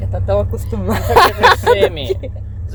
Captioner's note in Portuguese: risos